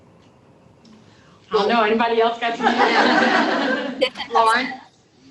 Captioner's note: laughter